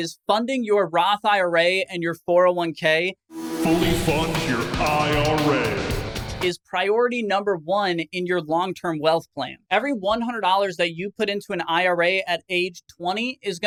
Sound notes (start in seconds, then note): 3.3 intense music; 4.0 voiceover